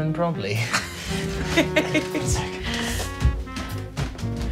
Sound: Sam laughs

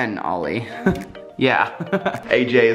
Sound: laughs

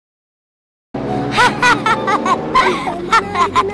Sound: laughing

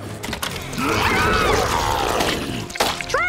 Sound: screaming

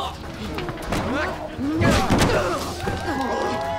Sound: grunting

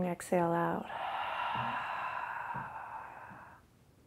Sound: exhales loudly

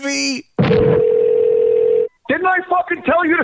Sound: telephone Ringing

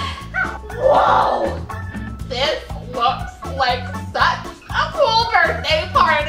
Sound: laughs

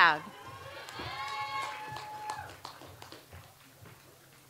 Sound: audience applauds

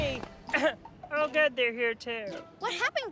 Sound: coughs

